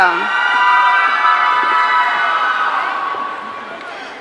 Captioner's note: audience cheering